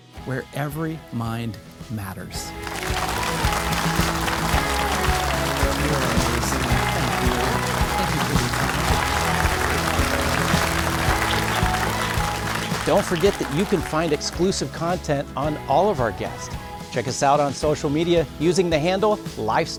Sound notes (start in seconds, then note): 3.7 audience applauding; 3.7 bright music